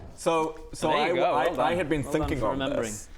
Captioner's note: none